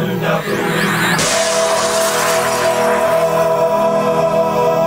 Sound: glass breaking

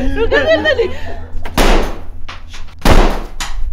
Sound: gunshot

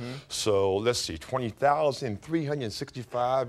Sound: none

